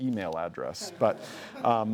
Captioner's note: laughs